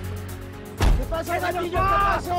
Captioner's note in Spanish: Disparo